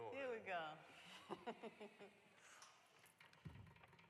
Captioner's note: laughs